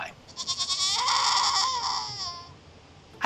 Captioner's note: goat yelling